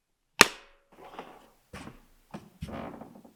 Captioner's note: lid thuds